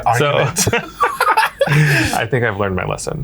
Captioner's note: laughs